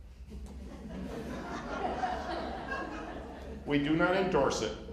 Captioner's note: laughter